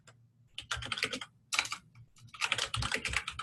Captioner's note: typing